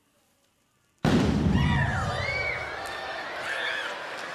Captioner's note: loud boom; audience yelps; audience laughs